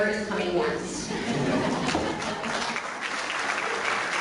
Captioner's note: clapping